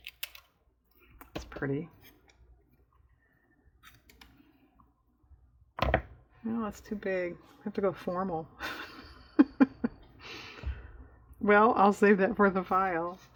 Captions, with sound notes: it's pretty well that's too big i have to go formal (laughs) well i'll save that for the file